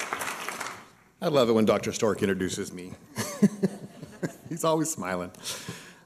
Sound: laughs

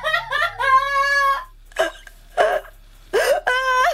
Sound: Mary screams; Mary cries

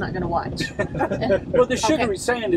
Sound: men laugh

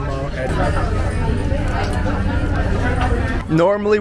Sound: speaking in foreign language; people chattering

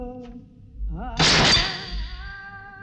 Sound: gunshot

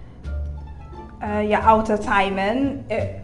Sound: Trini accent

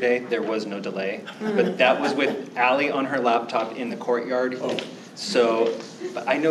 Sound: laughter

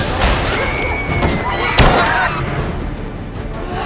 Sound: crowd screaming

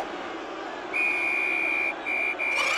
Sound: whistle

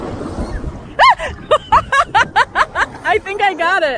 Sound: laughter

